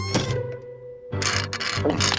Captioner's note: metal crunches